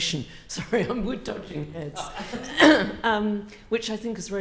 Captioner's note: laughs